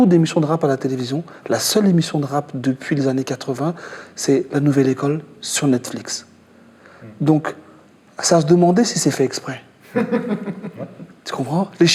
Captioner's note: laugh